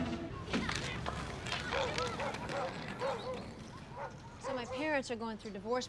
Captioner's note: kids chattering; dog barking